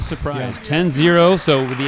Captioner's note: applause